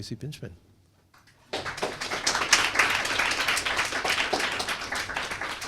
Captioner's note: applause